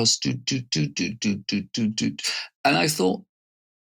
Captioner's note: beatboxing